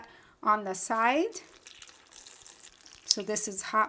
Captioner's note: broth trickling